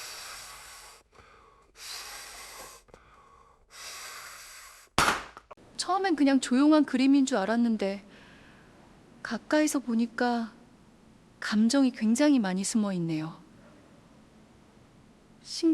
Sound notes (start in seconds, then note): 1.1 sighs